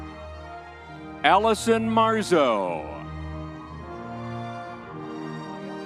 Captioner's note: crowd cheering